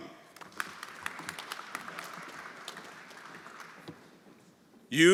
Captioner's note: everyone applauding